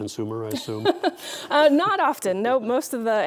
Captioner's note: laughing